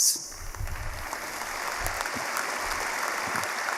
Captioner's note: applause